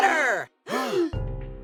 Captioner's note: all gasp